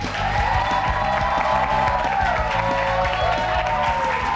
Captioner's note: cheers